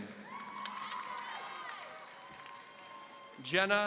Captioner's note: audience cheering